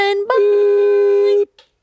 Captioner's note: horn blowing